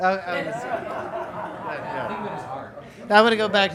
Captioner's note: students laughing